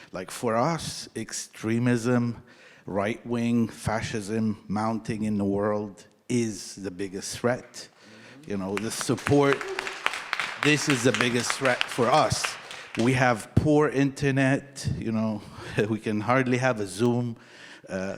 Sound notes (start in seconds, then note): 7.6 audience applauding